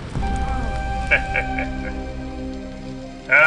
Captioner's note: wicked laugh